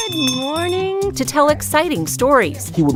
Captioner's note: bell rings